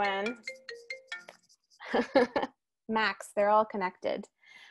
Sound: phone ringing

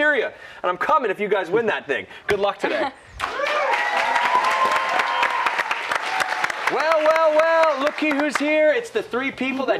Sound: cheers and applause

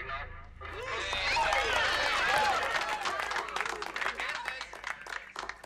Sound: cheering and applauding

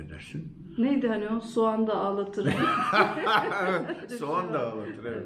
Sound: laughter

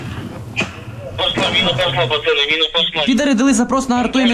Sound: captured Russian radio

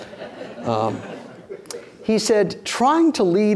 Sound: audience laughing

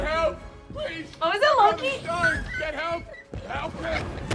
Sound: squeaks

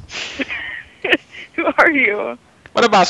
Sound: laughing

